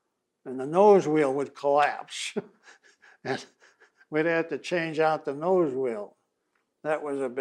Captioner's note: laughs